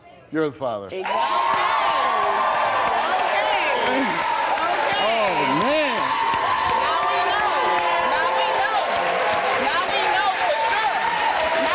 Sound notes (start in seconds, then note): 1.1 audience cheering; 5.9 audience clapping